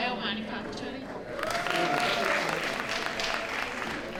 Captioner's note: applause